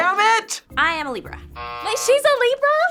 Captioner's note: buzzer rings